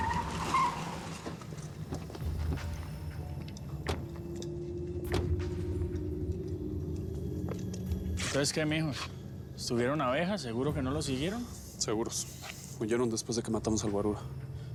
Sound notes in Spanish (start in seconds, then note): 3.7 portazos